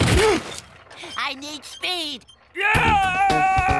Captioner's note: crashing